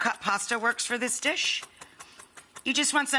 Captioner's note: knife chopping